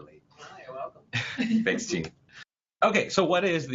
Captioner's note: laugh